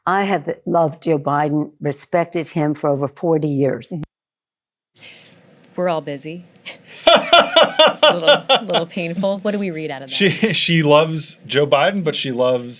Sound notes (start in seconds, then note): 7.0 laughs